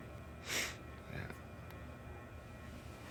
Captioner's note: sniffs